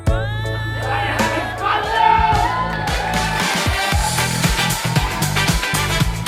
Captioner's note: cheers